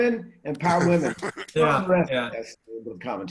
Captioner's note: laughing